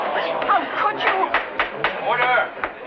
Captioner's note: people murmuring; gavel banging